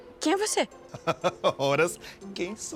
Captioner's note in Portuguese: Homem ri